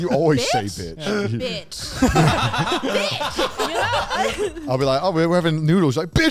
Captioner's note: hosts laugh